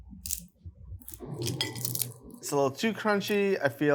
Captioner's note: bacon crunching